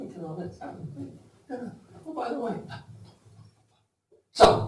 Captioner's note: makes gibberish sounds